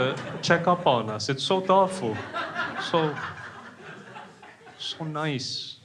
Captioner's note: crowd laughing